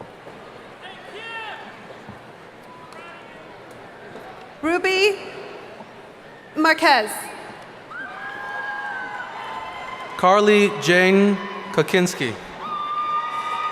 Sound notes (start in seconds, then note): 7.8 cheering